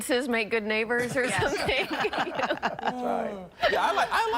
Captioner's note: laughter